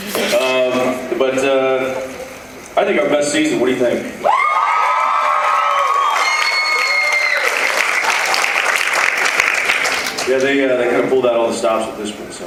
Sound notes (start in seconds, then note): 4.2 cheers, applauds